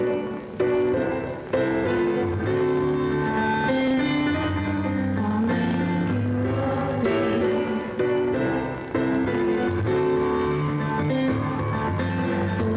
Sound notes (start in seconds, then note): none